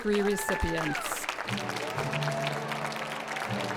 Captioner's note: applause